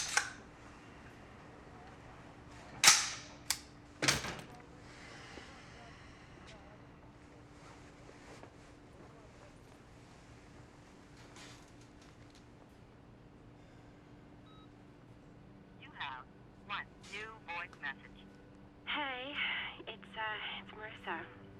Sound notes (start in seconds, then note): 13.9 beep